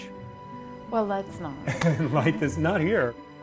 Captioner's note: laughter